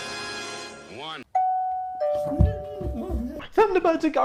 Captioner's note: doorbell ringing, excited clamoring